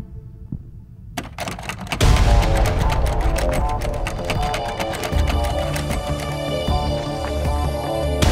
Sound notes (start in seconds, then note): 1.2 doorknob clattering; 1.8 intense music